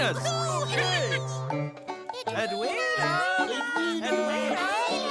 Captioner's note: excited cheering; calling out